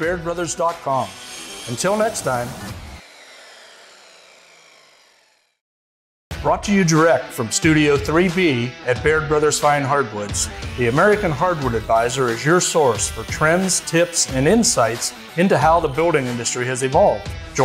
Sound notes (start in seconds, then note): 3.5 saw revs down